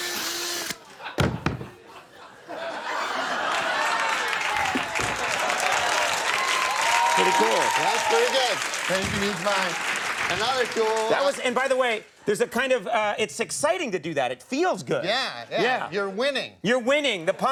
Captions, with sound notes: (audience laughs) Use mine. And by the way, there's a kind of, it's exciting to do that. It feels good. Yeah, you're winning! You're winning!